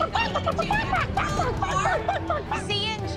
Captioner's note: Abby Lee clucking